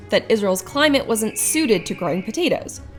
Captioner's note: hawk calls